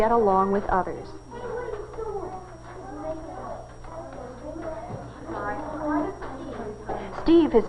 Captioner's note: children chattering softly